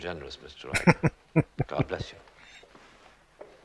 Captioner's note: chuckling